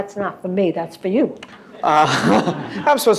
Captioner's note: laughter